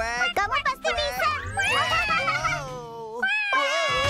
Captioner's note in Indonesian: reaksi terkejut